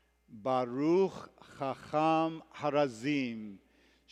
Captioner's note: hebrew